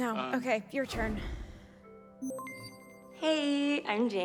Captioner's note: system beeps